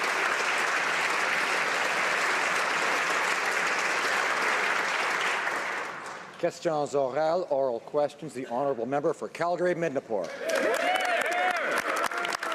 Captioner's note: applause